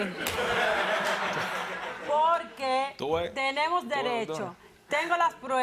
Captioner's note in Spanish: El público ríe